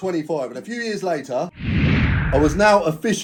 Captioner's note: air whooshing